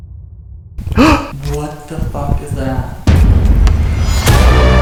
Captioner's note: gasp; scary suspenseful music